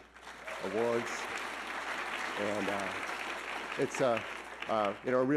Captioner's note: audience clapping